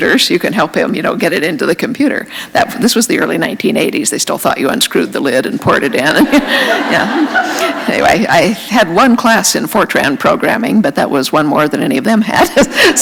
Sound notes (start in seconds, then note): 5.8 laughter; 12.4 laughter